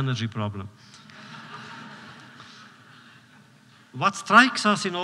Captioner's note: laughter